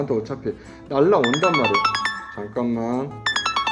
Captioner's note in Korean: 문자알림